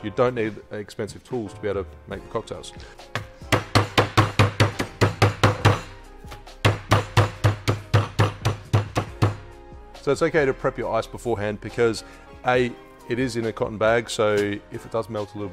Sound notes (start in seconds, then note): 4.7 pounding